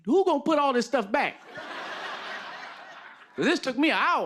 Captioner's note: laughter